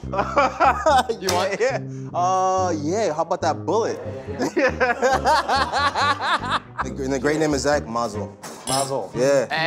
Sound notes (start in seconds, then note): 0.1 laughs; 4.1 laughs; 8.4 glasses clinking